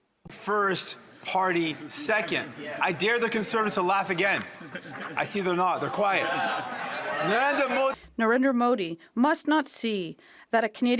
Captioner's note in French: voix de l'interprète